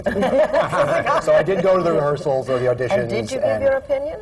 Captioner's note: laughter